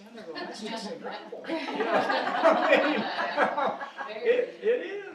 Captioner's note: audience laughing